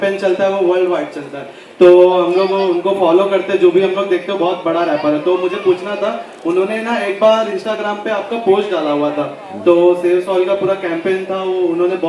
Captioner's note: speaks in Hindi - not transcribed